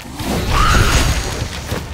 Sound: roaring

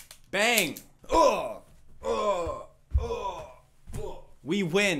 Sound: dying noises with a small slam I assume is a couch

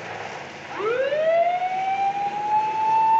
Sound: siren blares

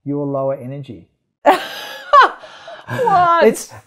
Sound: laughs

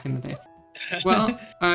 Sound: laughing

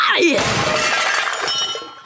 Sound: grunting; banging; groaning

